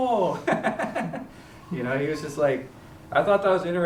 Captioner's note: chuckles